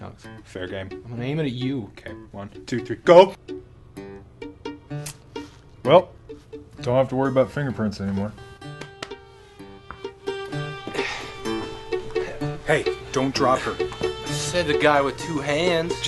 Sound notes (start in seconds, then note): none